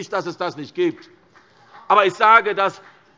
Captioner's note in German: Beifall : Aha!